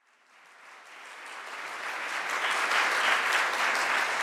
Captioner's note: audience applauds